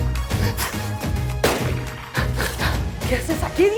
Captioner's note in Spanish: Disparos